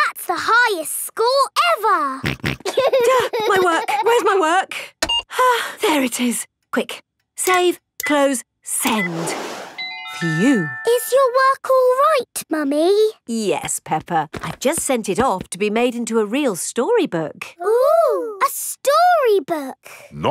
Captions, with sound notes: -That's the highest score ever! -(SNORTS) -(GIGGLING) -Gah! My work! Where's my work? (SIGHS) There it is. Quick... Save, close, send. Phew! Is your work all right, Mummy? Yes, Peppa. I've just sent it off to be made into a real storybook. -Ooh, a storybook! -Ooh!